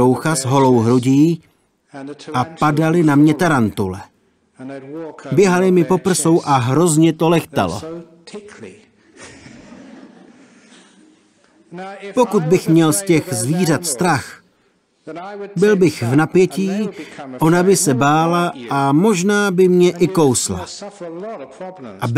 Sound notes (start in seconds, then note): 9.0 laughs